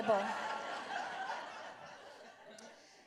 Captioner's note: laughter